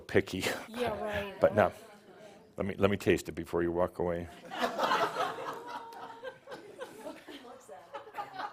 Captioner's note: a few chuckles as he sips it